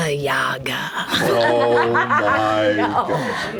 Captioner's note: laughs